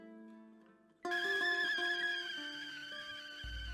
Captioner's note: kettle whistling